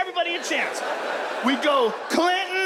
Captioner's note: audience laughs